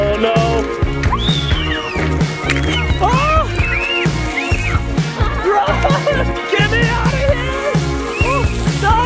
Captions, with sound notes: Oh no. (kids shrieking) Oh! What? (laughs) Get me outta here! (water splattering) Ooh!